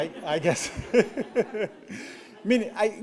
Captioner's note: laughter